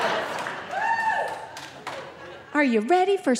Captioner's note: audience member exclaiming